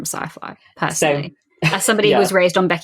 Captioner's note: laughs